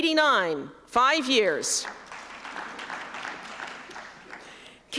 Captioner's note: applause